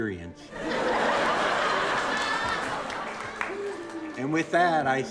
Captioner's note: audience laughing